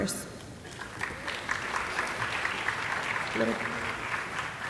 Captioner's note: audience applauding